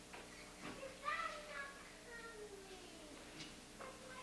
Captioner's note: child whining